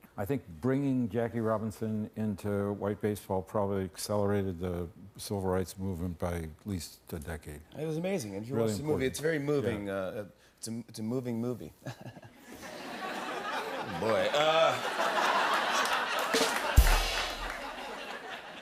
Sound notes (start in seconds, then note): 11.8 laughter; 16.4 rim shot